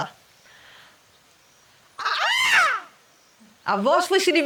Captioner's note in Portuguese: Imitando o canto de um pavão